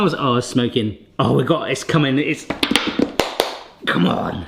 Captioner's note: claps